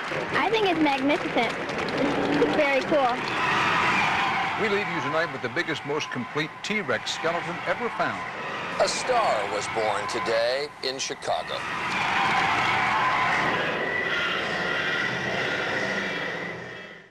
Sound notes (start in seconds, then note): 13.7 cheers and applause